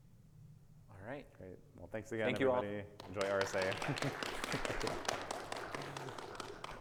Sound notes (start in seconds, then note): 2.9 audience clapping; 3.8 laughing